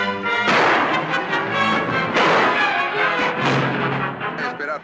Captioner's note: gunshots